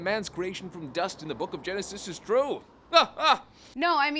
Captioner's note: laughs